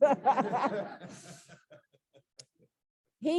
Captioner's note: laughter